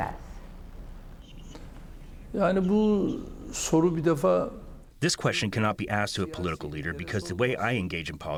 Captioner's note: through translator